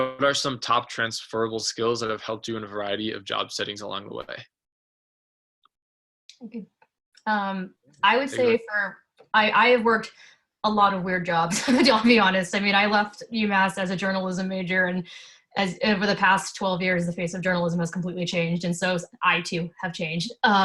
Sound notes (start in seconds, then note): 11.6 laughs